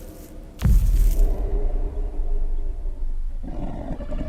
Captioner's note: wolf growling